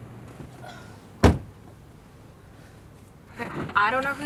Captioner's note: car door slams